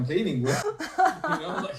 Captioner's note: laughter